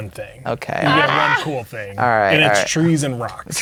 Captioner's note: laughing